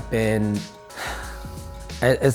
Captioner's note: sigh